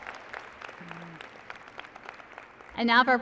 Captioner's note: applause